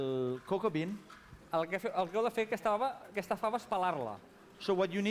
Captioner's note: non-english speech